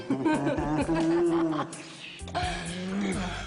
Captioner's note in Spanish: Risas